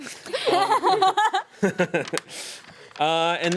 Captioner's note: woman laughs